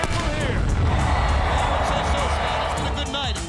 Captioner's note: crowd cheering